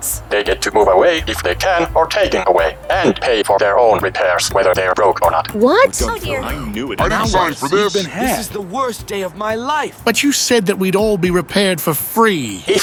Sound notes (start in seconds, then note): 5.3 crowd chattering